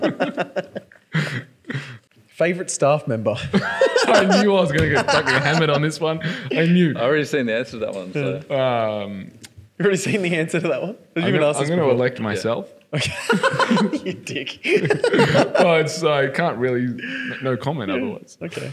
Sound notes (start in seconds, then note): 13.0 laughing